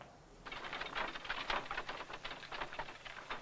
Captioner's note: wagon sound